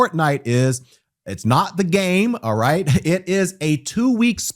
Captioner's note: laughs haughtily; chuckles